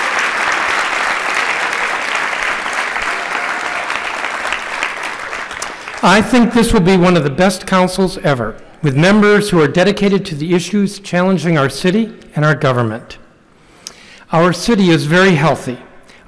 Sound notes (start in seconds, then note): 0.0 applause